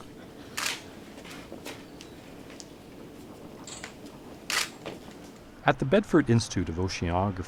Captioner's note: camera shutter sounds